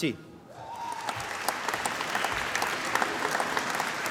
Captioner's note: applause